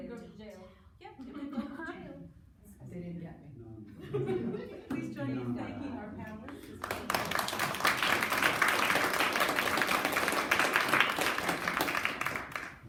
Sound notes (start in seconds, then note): 6.5 clapping